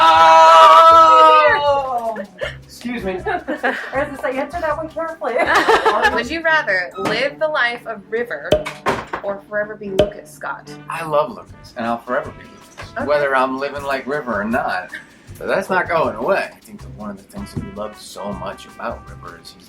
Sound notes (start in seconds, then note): 3.0 laughter